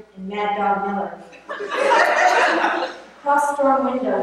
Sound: laughter

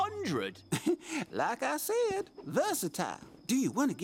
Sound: chuckling

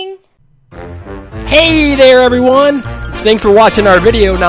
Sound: voiceover

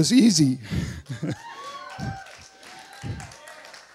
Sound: cheers; applause

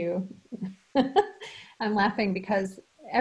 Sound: laughs

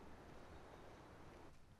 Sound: none

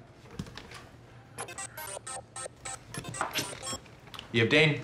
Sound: Dane's phone rings

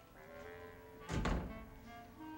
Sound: door shuts

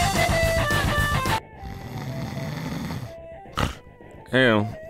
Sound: snoring; muttering

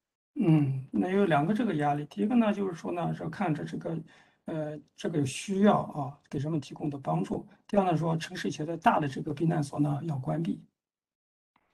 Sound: speaks in Mandarin

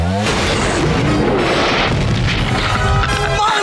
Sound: thudding

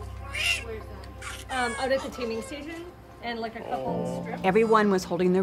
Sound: baby crying

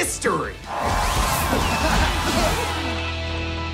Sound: coughing

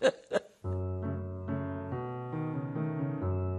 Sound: laughter

